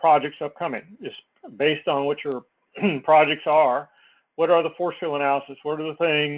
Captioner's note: cough